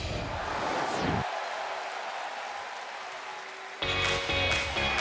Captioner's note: crowd cheering